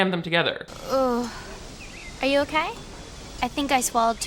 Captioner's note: groans